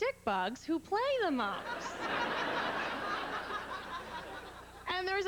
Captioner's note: laughter